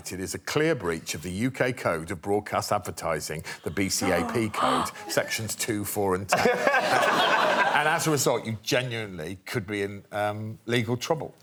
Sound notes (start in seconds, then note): 3.4 contestants gasp; 6.3 laughter